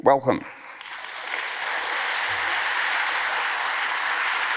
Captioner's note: audience applauds